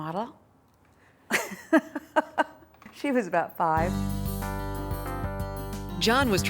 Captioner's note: laughs